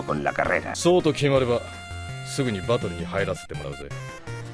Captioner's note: in Japanese